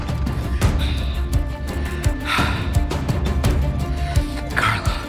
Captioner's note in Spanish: Sollozos